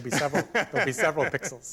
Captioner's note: laughter